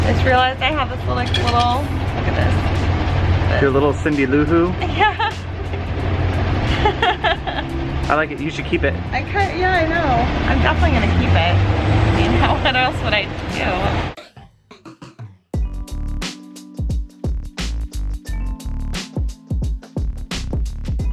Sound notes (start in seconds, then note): 6.6 laughing; 14.6 upbeat music